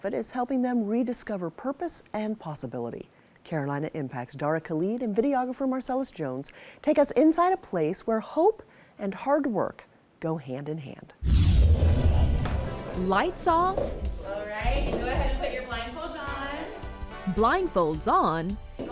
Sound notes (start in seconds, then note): 11.4 page swishing